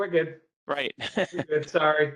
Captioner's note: laughter